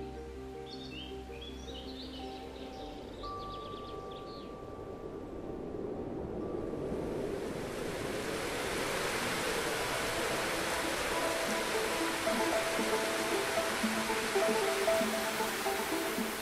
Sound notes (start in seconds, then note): 5.4 music, wind and rain